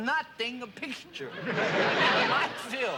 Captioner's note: laughter